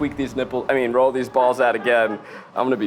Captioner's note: laughter